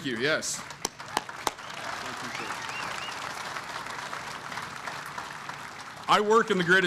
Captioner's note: applause